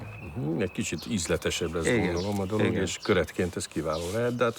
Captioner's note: speaking in foreign language